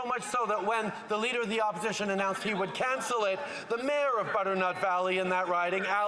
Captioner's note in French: voix de l'interprète